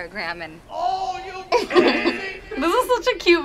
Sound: laughs; buzzer

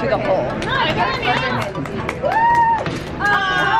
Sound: spectators cheering

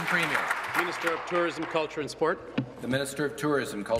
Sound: applause

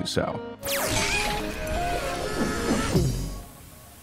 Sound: portal zapping

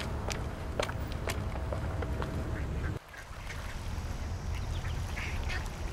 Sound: duck sounds

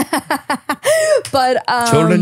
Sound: laughs

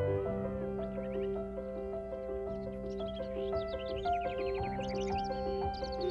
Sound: birds chirping

